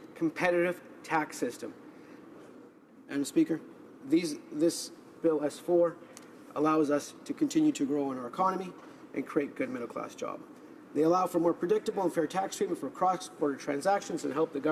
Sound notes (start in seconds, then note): none